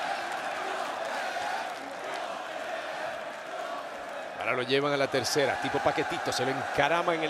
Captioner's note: applause